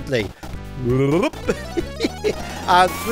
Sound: chuckles

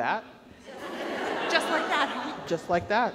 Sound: audience laughs

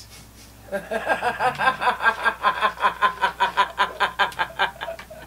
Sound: laughing

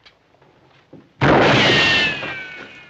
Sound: gunshot

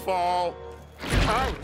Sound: splat

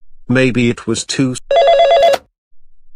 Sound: phone ringing

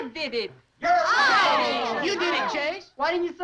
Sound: all chattering

